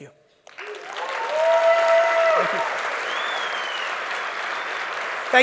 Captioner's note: audience cheers and claps